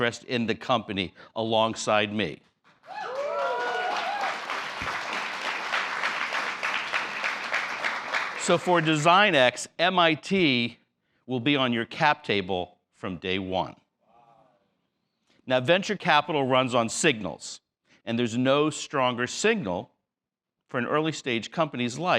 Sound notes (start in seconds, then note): 2.7 applause